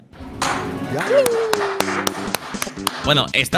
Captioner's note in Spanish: aplauden